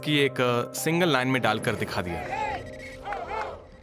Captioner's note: protestors chanting